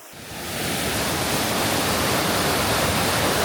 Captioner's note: sound of rushing water